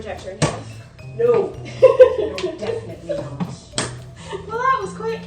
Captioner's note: laughter